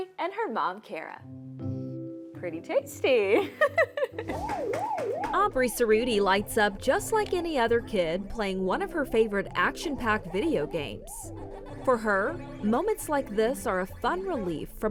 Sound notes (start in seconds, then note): 3.4 giggling; 4.1 arcade machine warbling